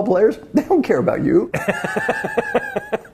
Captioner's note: laugh